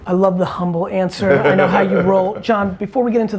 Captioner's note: laughs